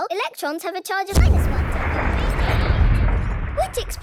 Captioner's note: distant explosion